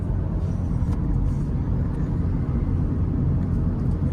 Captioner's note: car softly driving